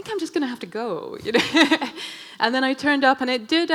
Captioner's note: laughing